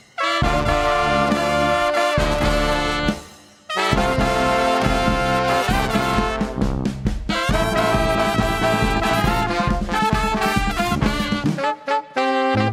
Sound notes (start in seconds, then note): none